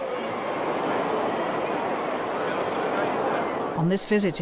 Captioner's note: crowd cheering